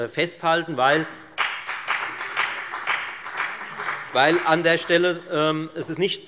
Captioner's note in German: Beifall bei der FDP